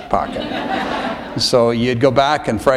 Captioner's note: laughter